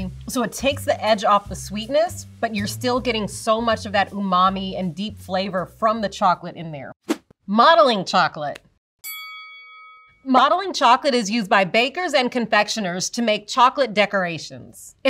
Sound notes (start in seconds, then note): 9.0 bell dings